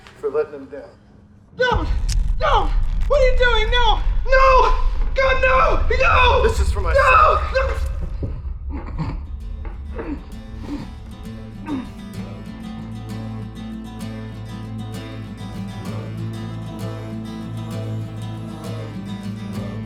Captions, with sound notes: For letting him down. Don't. No. What are you doing? No, God no, no! - This is for my son. - No! (grunting)